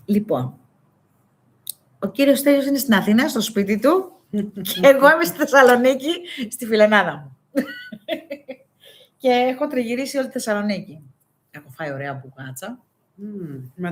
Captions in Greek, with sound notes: Λοιπόν, ο κύριος Στέλιος είναι στην Αθήνα, στο σπίτι του και εγώ είμαι στη Θεσσαλονίκη, στη φιλενάδα μου [γέλια] και έχω τριγυρίσει όλη τη Θεσσαλονίκη. Έχω φάει ωραία μπουγάτσα.